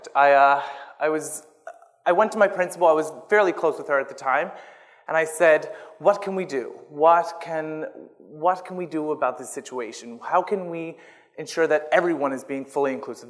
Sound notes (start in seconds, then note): none